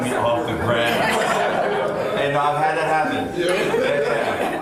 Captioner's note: group laughing; group laughs